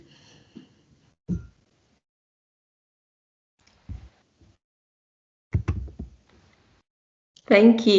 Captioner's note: silence